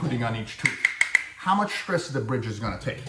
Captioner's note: tapping noise